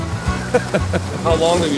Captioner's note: laughing